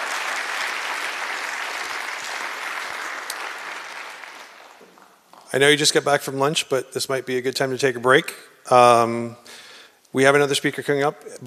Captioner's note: applause